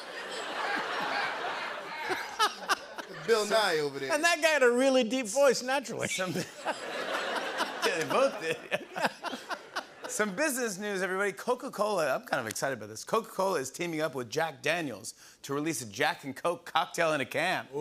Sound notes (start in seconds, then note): 0.0 laughter; 8.7 laughter